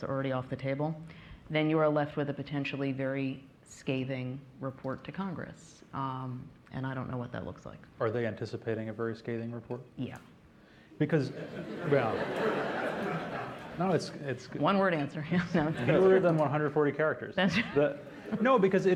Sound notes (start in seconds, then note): 11.2 laughter